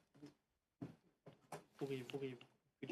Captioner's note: speaking French